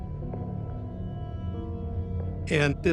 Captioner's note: footsteps echoing